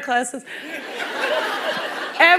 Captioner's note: laughter